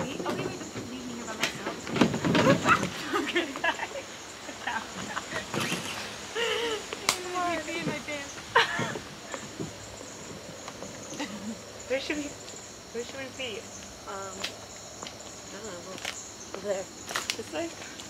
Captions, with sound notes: - Wait wait wait. Just don't leave me here by myself. [laughing] - Where should we be? - I don't know. Over there. - This way?